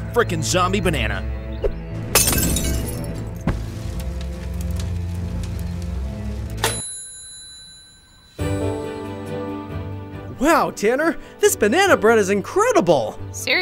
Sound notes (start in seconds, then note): 2.0 fire crackling; 2.1 glass shattering; 6.6 bell dings; 8.4 peaceful music